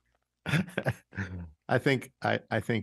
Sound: chuckles

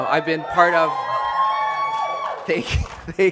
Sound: applause

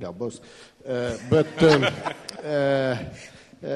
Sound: laughter

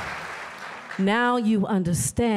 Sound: applause

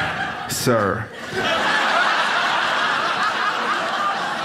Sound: audience laughs

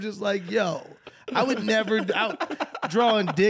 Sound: laughing

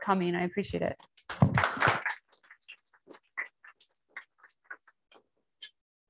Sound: applause

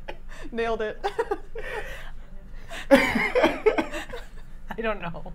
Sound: all laughing

